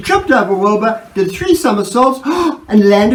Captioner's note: gasp